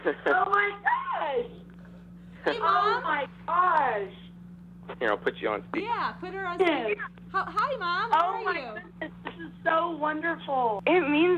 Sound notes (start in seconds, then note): 0.1 teenager laughing; 1.0 mother On Phone Speaker; 7.1 mother On Phone Speaker; 9.1 mother On Phone